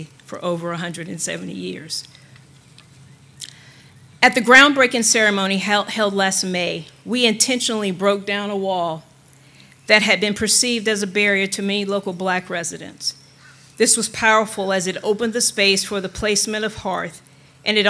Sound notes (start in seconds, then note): none